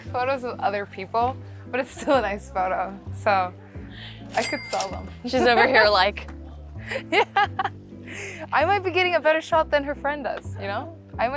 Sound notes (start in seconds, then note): 6.8 laughs